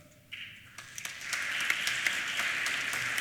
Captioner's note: applause